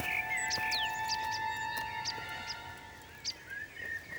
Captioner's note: chirps